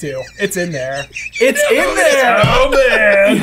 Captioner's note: laughing